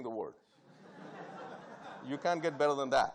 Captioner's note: audience laughing